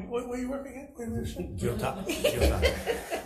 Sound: assembly laughs

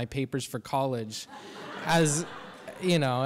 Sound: audience laughs

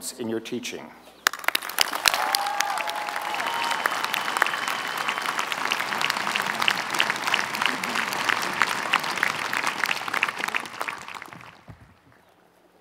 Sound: applause

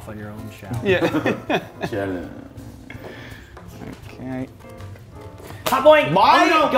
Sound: laugh

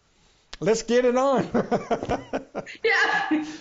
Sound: laughs

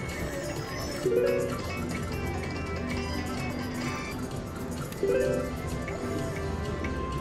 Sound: machine beeps

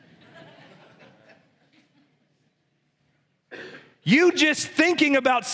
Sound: congregation laughs

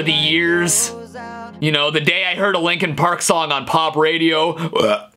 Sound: burp

